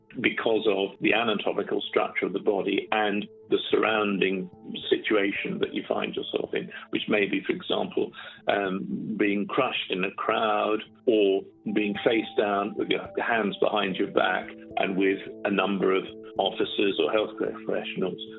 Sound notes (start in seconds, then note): none